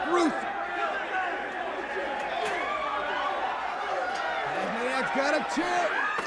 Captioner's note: crowd chatter